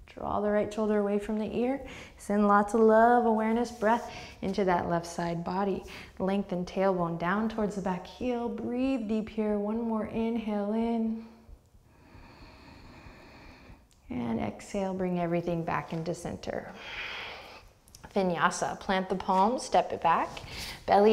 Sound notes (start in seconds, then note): 11.8 deep breath; 16.7 deep breath